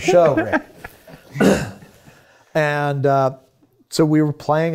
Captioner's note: laughing